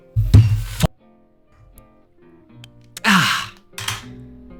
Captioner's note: desk thumping